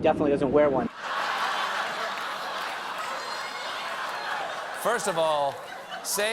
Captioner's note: laughter